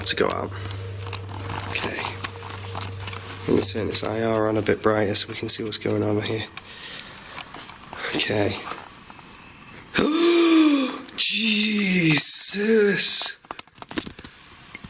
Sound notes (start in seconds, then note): 9.9 gasping; 10.4 hissing